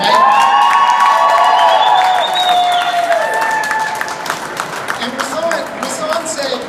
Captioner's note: applause